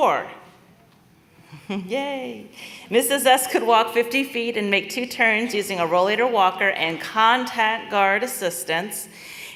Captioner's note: laughter